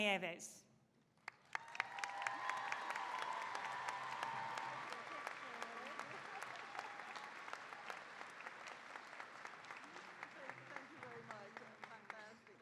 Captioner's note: applause, cheering